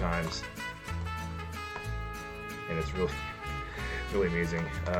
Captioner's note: pleasure/nostalgia noises